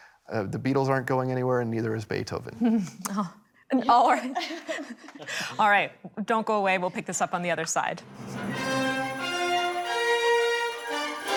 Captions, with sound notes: the Beatles aren't going anywhere and neither is Beethoven. - All right. [laughs] All right, don't go away. We'll pick this up on the other side.